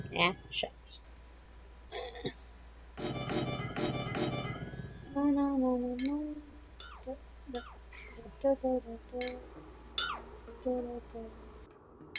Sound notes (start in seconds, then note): 5.1 humming